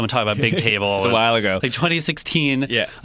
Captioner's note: laughs